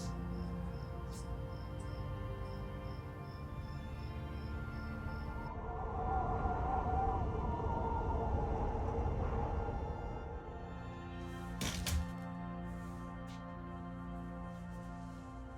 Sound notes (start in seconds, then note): 0.0 soothing music continues; 5.5 wind howling; 11.6 door thumping; 15.3 soothing music continues